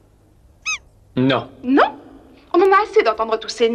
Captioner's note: squeaks once